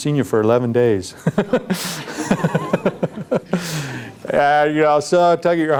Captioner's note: laughing